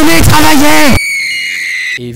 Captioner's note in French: cris stridents